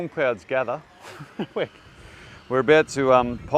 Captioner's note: laughs